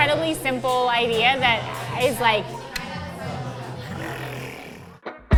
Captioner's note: imitates explosion